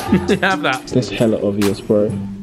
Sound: laughing

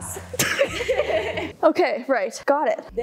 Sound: both laughing

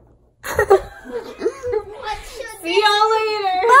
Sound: everyone laughs

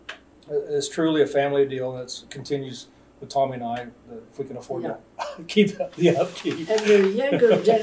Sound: laughs

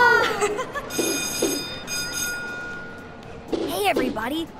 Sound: school bell ringing

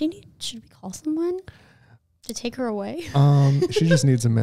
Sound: laughs

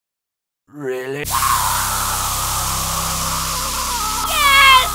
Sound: painful screaming

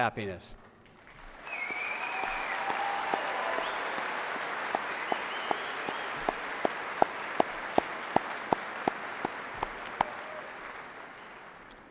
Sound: cheers and applause

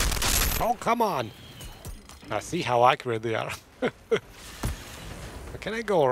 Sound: laughs

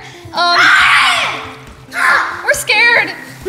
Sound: screaming

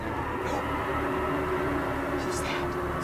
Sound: roar

